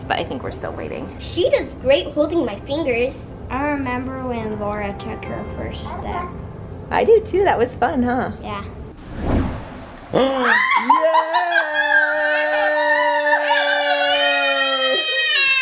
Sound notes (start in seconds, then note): 10.1 laughing and cheering